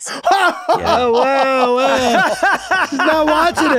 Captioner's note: hosts laugh